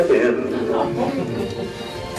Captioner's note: laughter